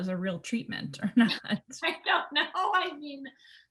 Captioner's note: laughs